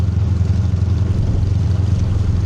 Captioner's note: none